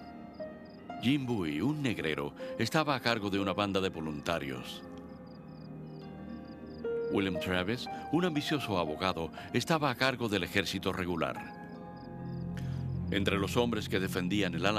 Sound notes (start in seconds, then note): none